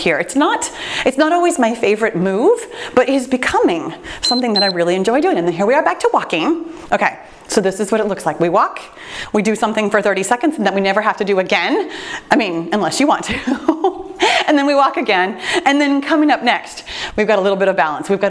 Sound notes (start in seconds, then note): 4.2 timer beeps; 13.3 laughs